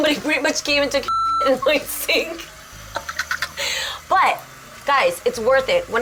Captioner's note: laughing